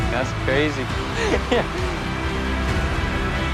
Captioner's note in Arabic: ضحك